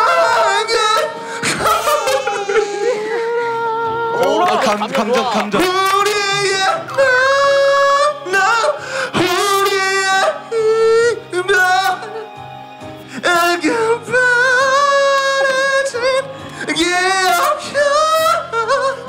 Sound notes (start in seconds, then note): 1.3 Menangis